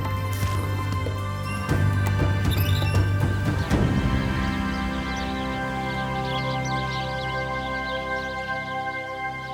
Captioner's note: birds singing